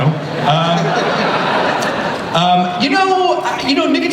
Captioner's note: laughter